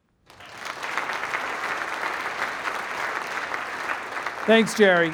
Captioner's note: applause